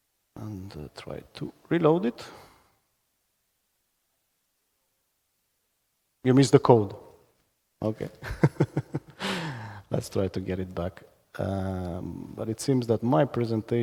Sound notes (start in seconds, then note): 8.2 laughs